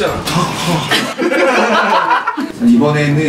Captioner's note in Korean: 일동 폭소